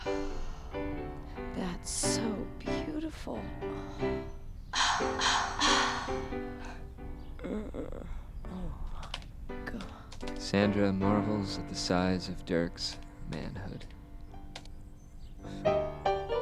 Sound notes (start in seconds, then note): 4.7 gasps; 7.3 moaning; 14.8 downtempo piano